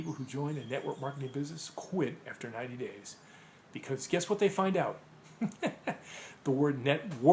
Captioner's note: laughing